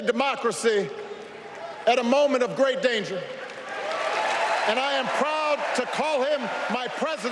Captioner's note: applause